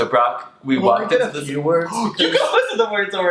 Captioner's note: gasps